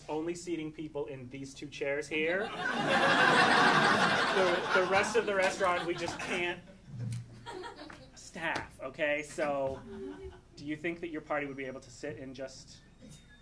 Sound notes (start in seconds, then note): 2.4 audience laughing